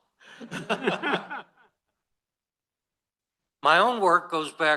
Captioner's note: laughter